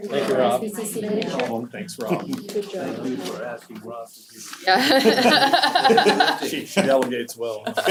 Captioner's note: laugh